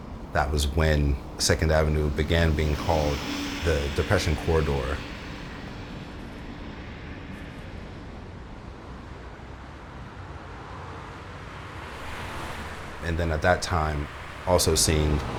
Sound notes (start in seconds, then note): 9.1 traffic noises